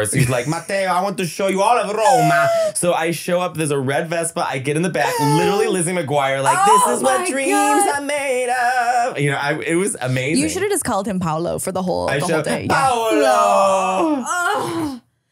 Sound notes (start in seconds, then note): 0.1 foreign language; 5.3 clearing throat; 7.1 foreign language